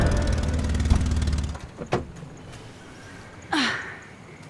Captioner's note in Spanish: Ruido del vehículo